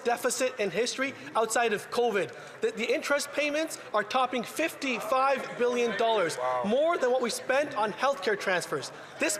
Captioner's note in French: voix de l'interprète